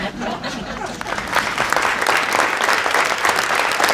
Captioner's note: applause